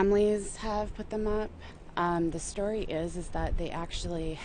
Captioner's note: voiceover